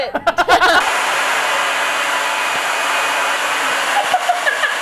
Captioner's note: both laugh; hair dryer sounds; laughs